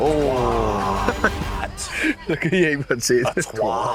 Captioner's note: laughs